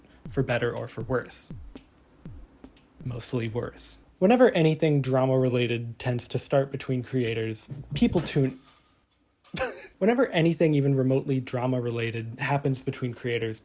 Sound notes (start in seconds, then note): 9.5 laughs